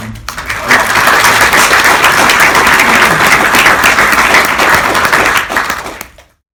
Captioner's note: applause